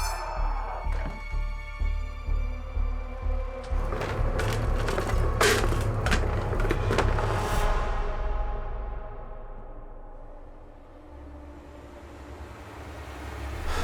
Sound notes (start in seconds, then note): 0.1 Meathook Man roaring; 2.6 suspenseful music; 5.2 objects clattering; 10.6 suspenseful music